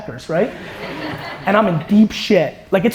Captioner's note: audience laughter